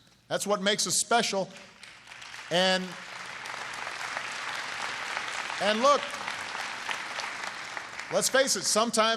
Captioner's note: applause